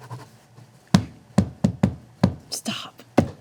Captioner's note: knocking